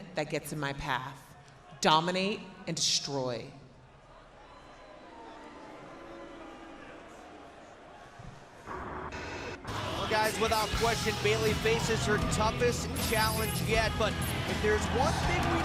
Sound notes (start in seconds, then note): 4.2 crowd cheering